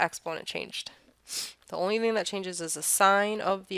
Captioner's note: sniff